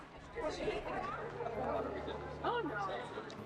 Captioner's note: crowd murmuring